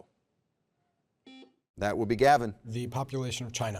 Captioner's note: buzzer beeps